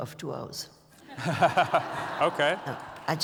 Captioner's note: laughter